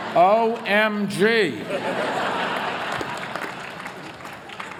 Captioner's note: laughter